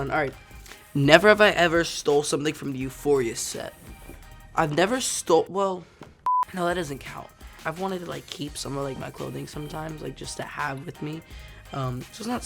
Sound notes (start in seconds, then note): 6.2 beep